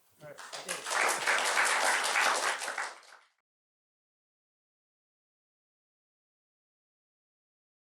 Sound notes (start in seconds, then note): 0.2 applause